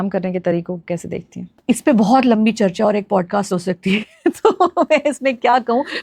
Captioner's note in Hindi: हंसी